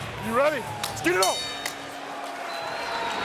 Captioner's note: bell dings